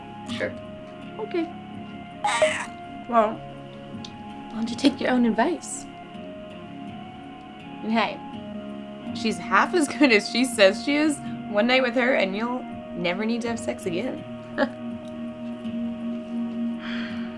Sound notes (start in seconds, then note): 2.1 cell-phone: cat's meoow jingle